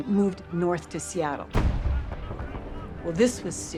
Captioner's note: cannon fire